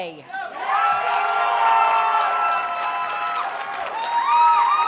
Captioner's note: audience cheers and applauds